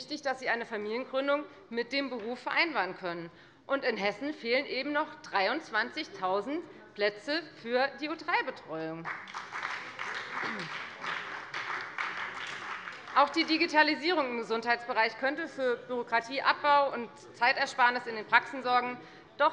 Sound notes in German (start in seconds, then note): 9.0 Beifall bei der FDP und der SPD